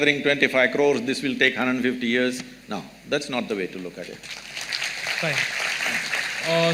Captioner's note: applause